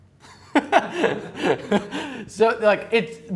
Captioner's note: laughing